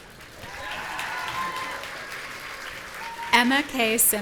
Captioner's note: audience cheering